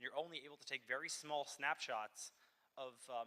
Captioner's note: none